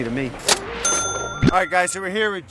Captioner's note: cash register dinging